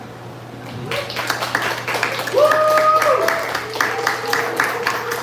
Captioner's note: applause